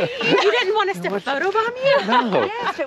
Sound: laughing amusingly

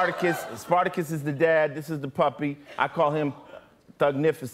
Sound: laughter

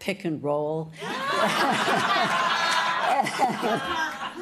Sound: laughter

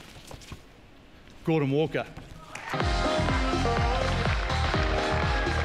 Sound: cheering, applause; upbeat music plays

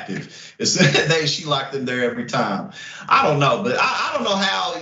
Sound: laugh

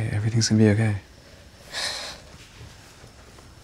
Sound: inhales sharply

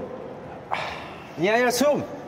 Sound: sigh

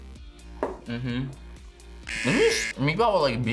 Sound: buzzer

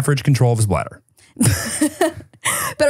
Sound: laughs

